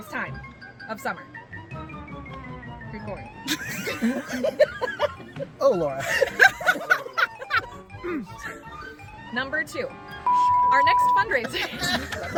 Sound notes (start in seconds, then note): 3.6 under her breath; 5.9 more laughter; 5.9 both laughing...again; 10.2 beeping; 11.5 even more laugher